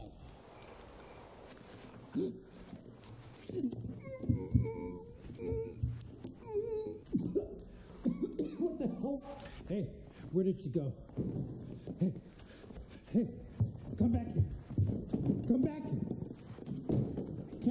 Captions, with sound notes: (Kate groans) (Jason gasps) What the hell? Hey where did she go? Hey, hey, come back here. Come back here, Kate.